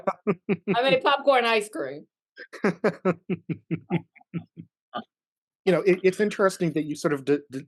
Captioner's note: laughs